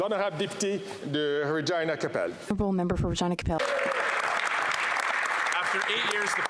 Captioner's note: speaking French